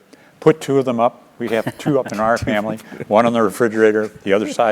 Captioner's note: laugh